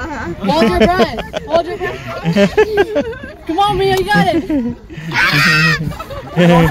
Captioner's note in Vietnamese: Tiếng cười